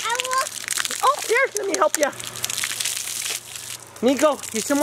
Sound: water splashing

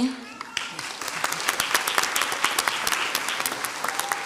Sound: crowd applauds

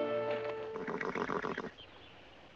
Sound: nickering

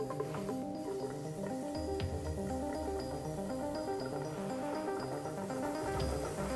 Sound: playful suspenseful music; liquid nitrogen bubbling

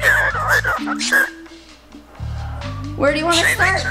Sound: birds squawking

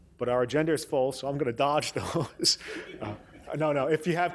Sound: laughs

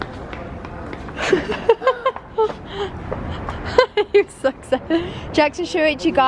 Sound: laughs

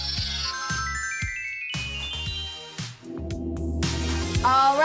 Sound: bells and chimes

